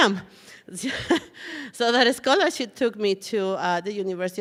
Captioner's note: chuckles